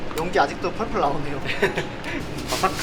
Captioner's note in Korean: 웃음